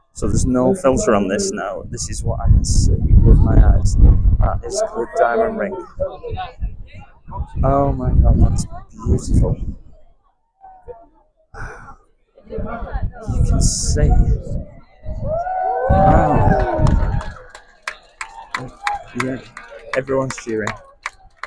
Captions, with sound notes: So, there's no filter on this now. This is what I can see with my eyes. That is the diamond ring. Oh my God, that's beautiful. You can see. Wow. [Cheering] [clapping] Everyone's cheering.